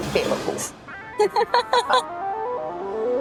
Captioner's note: laughing; eerie music